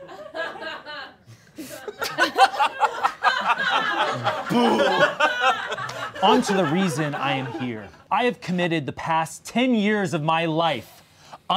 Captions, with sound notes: (all laughing) Onto the reason I am here. I have committed the past 10 years of my life